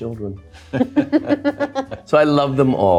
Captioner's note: Selena and Steve laugh